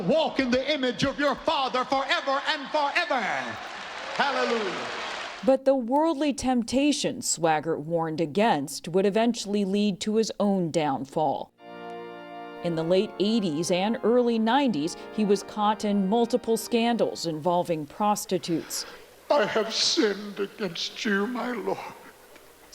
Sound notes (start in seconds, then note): 4.9 applause